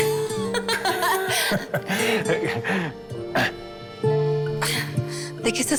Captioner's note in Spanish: Risas